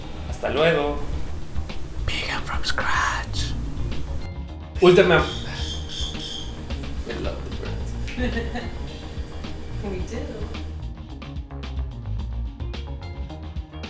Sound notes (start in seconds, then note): 5.5 birds chirping